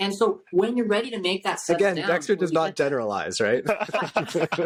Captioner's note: laughter